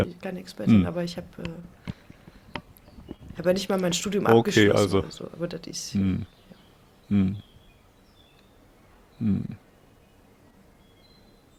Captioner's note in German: räuspern